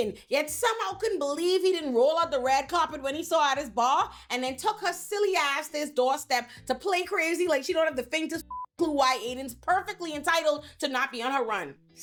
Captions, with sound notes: yet somehow couldn't believe he didn't roll out the red carpet when he saw out his bar and then took her silly ass this doorstep to play crazy like she don't have the thing to (beep) clue why Aiden's perfectly entitled to not be on her run.